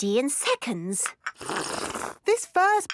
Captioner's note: slurping